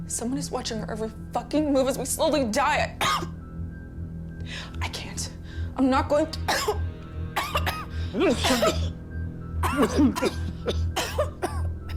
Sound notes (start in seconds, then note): 3.0 coughs; 7.3 Miranda coughing; 7.4 Thomas coughing